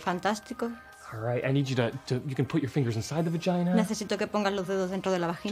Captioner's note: speaks in english